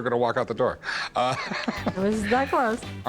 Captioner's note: laughs